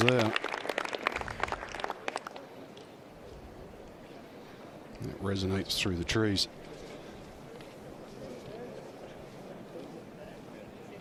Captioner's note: applause